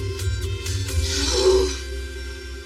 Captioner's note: groroans